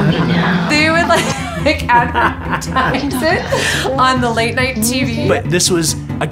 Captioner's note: laughter